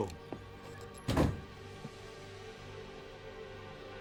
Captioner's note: door slams